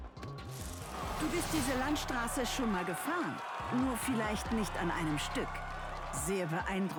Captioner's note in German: jubel